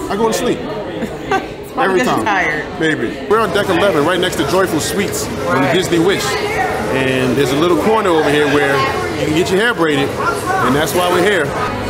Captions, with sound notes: I go to sleep. (laughing) Every time. - It's probably cause you're tired. - Baby. We're on deck 11 right next to Joyful Sweets on a Disney Wish. And there's a little corner over here where you can get your hair braided and that's why we're here.